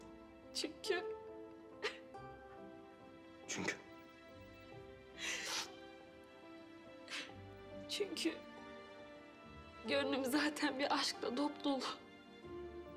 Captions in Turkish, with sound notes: Çünkü... Çünkü? (Burun çekme sesi) Çünkü... ...gönlüm zaten bir aşkla dopdolu.